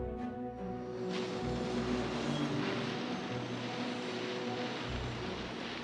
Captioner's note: machine whirring